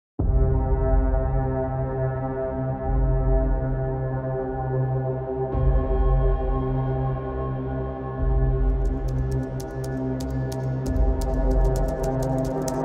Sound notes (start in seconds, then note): 0.1 mysterious music; 8.8 keyboard keys clacking